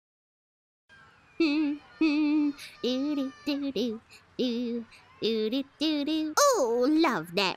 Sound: humming

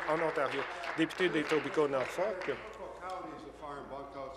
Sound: applause

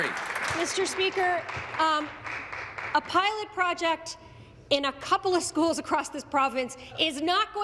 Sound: applause

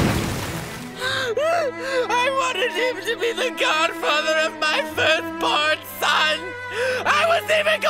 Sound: sobbing

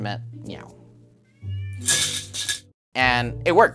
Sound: can shakes; cat meows

